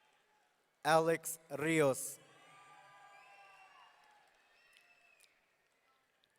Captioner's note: audience cheering